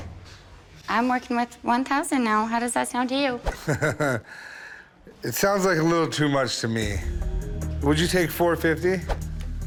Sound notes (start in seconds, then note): 3.5 chuckles